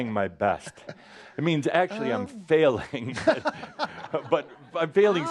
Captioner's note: laughter